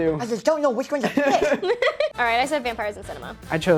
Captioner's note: with a lisp; laugh